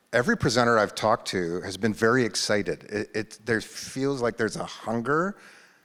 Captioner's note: none